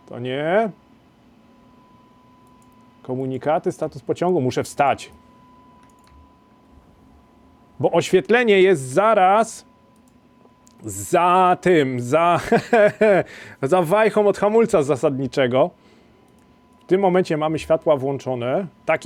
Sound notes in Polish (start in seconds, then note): 12.3 śmiech